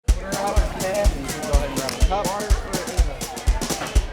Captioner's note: crowd talking